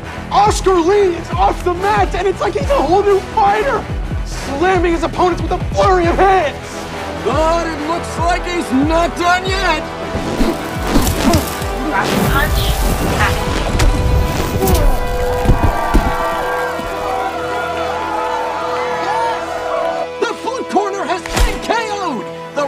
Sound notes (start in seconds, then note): 15.2 crowd cheering